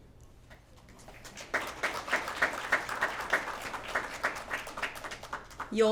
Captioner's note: applause